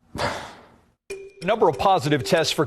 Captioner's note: sighs